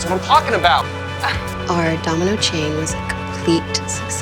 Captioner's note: Helen laughs; voiceover